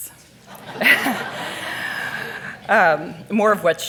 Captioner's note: audience laughing